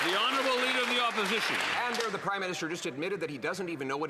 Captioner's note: cheers & Applause